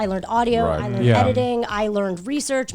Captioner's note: guys humming in agreement